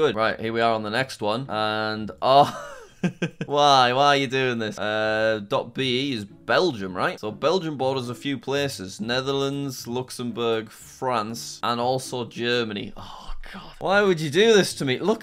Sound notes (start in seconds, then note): 2.2 laughs